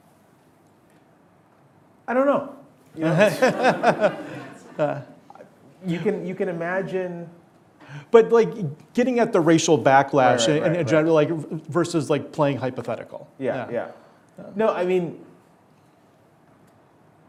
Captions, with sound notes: - I don't know. (laughing) You can imagine, - But like getting at the racial backlash in general, like versus like playing hypothetical. - Yeah, no, I mean,